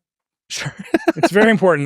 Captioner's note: laughs